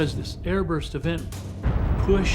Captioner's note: explosion